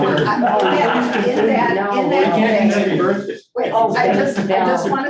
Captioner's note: group laughing